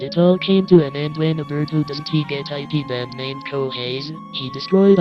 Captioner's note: none